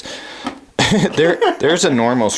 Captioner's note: laughing